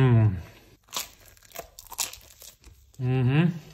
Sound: bread crunching

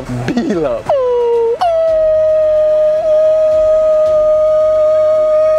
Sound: howling

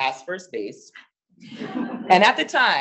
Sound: audience laughing

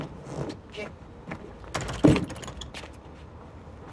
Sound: doorknob rattling

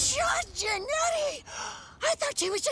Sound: gasps

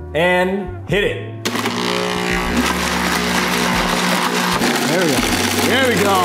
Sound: blender whirring

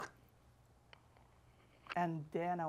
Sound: spitting sound

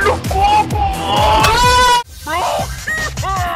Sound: moan

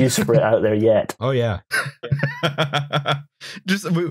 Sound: laughs

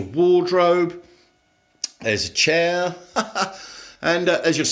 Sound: laughs

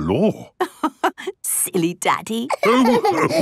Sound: laughing

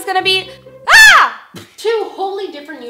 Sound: short, loud scream

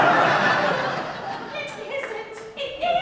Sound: audience laughs

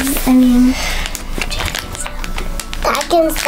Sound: whispers

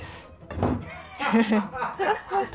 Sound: producer laughing

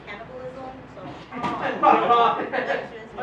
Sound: audience laughing

